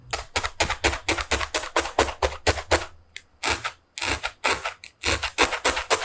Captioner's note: pop pop again